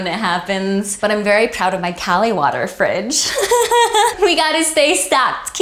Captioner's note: laughs